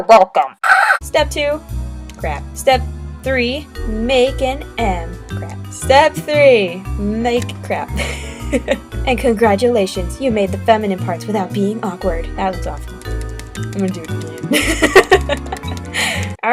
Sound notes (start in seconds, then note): 8.0 laughing cause I'm awkward